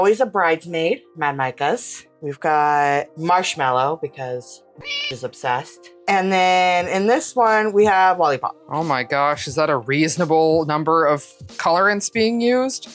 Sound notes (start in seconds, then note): 4.8 meow